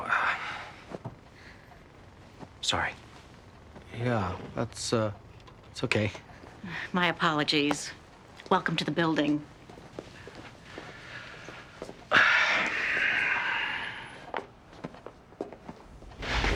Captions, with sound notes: Oh, uh... sorry. - Yeah, that's, uh... that's okay. - My apologies. Welcome to the building. (Joe sighing)